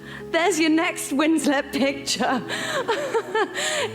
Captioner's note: laughs